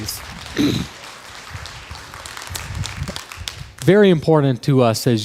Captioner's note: crowd applause